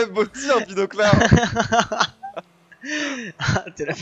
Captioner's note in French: Rires